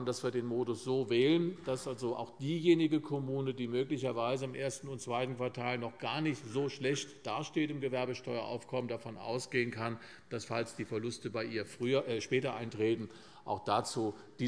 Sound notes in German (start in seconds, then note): none